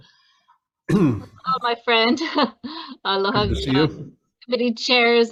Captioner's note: chuckling